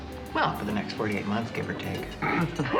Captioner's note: laughs